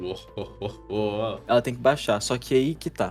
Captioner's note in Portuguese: risada